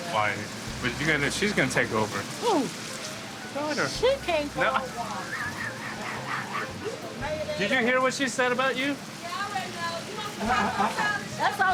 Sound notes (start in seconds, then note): 6.8 Ed laughs